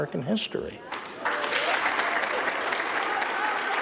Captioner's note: applause